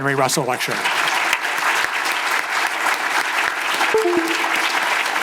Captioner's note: audience applause